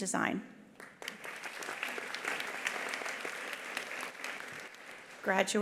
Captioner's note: attendees applauding